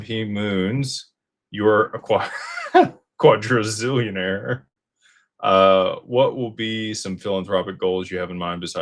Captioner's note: laughter